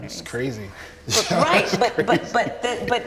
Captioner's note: laughs